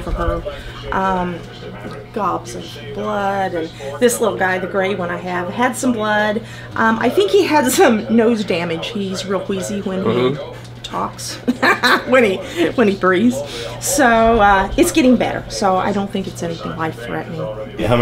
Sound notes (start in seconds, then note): 11.3 laughs